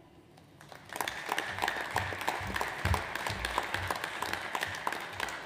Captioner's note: audience applauds